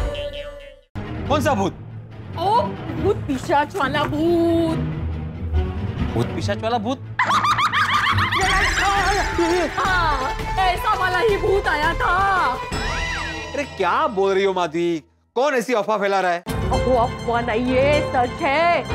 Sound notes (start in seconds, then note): 7.2 evil laughter; 8.1 yelps